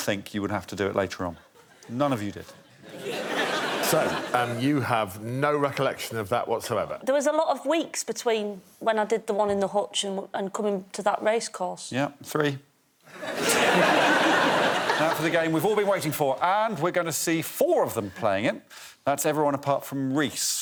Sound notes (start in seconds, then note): 15.1 laughter